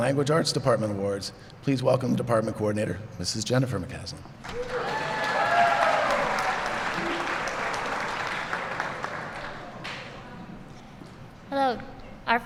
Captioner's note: applause